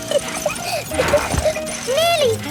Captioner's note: peppa laughing